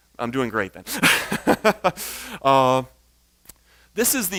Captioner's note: laughs